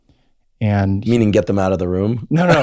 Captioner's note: laughs